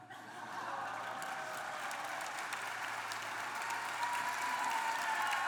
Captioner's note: applause